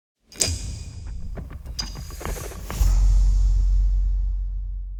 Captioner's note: percussive sound